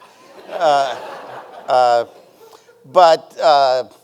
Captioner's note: audience laughing